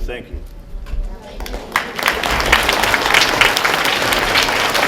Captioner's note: applause